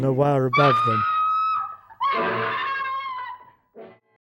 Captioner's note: screams